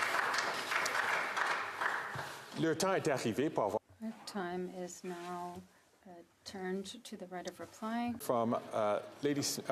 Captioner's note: some Applause